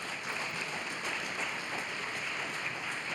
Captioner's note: applause